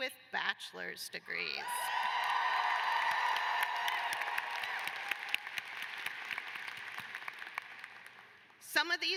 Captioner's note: cheers and applause